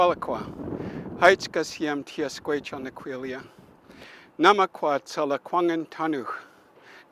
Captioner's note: speaks foreign language